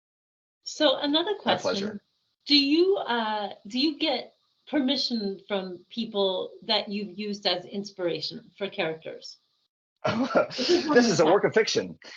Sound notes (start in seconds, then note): 10.0 chuckling